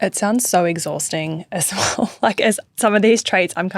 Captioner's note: chuckling